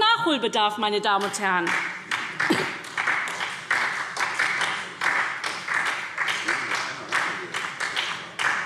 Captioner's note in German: Beifall SPD